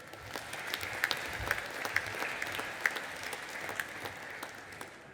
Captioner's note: audience applauding